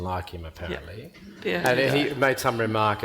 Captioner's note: panel and audience laughing